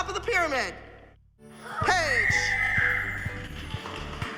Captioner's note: shrieking; bright music playing